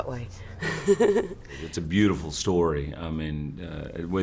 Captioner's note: laughter